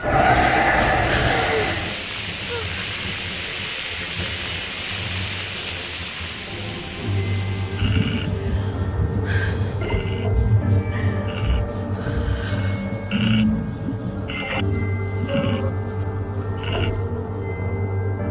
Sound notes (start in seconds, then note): 0.0 creature shrieking; 0.1 woman gasping; 2.0 creature chittering; 8.0 creature growling; 8.0 woman breathes uneasily